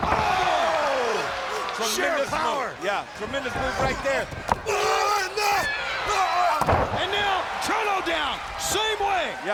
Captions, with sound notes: Hooks him. Oh! Tremendous move. Sheer power. Yeah, tremendous move right there. (Rick grunting) Oh no! (Chono grunts) And now Chono down, same way.